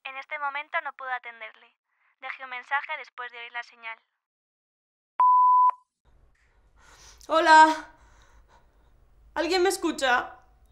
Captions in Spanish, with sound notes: En este momento no puedo atenderle. Deje un mensaje después de oír la señal. (pitido) ¿Hola? ¿Alguien me escucha?